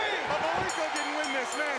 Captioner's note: crowd cheering; bell ringing